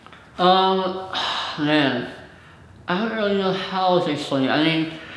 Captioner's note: sighs